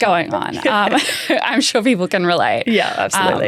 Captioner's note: both laughing